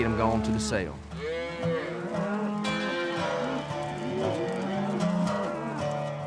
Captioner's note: cows mooing